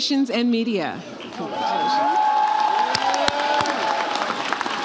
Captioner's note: audience cheers